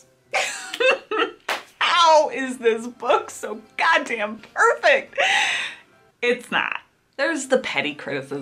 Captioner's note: laughs